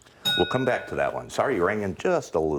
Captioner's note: ding